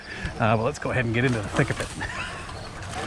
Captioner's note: chuckles